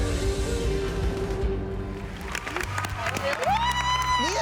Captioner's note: applause